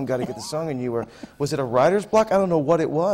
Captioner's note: laughs